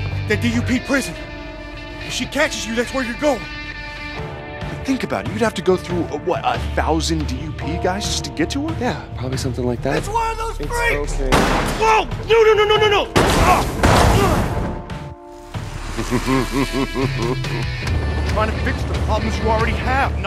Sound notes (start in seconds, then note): 11.2 bang; 15.9 chuckling